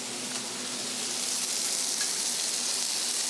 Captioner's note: sizzling kitchen sounds